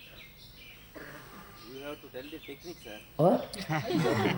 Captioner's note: laughter